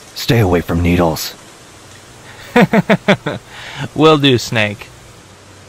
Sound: laughs

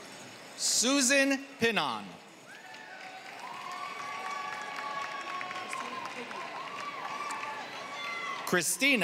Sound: applause

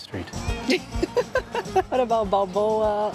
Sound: laughs

